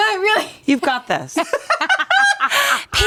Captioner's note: everyone laughs